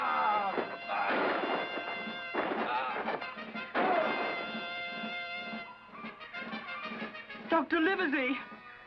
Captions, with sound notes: And that young, interferin'. . . [Gunshots]